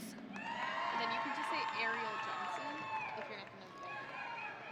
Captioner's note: audience cheering